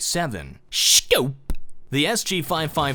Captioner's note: In grandpa voice